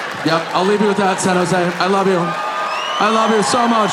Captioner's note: audience cheering